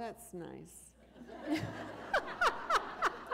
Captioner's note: laughter